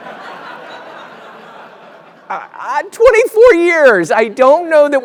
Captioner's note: laugh